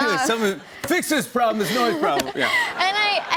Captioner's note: laughter